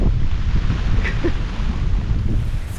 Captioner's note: wind & rain; chuckles; wind & rain